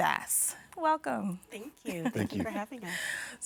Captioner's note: laughing